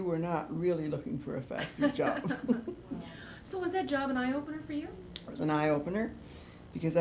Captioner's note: laughter